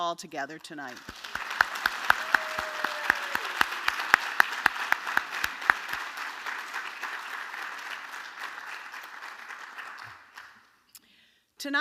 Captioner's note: applause